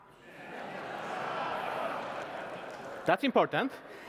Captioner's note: laughter